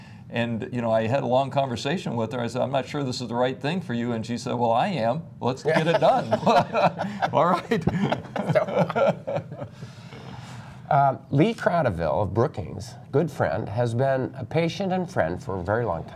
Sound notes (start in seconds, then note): 8.3 laughter